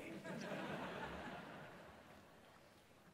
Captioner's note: laughter